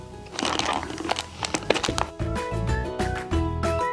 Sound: crinkles

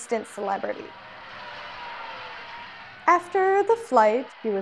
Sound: crowd cheers

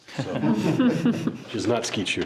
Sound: board members laugh

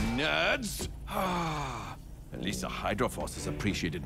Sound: sighs

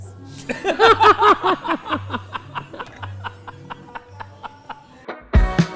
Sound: laughs

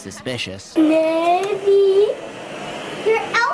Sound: light switch clicks

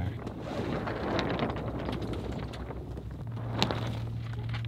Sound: sail flapping

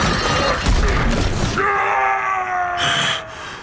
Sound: grunting; screaming

